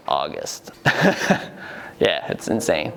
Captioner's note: chuckles